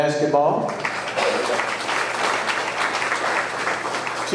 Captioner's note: audience clapping